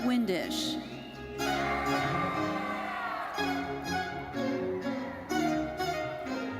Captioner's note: audience cheering and applauding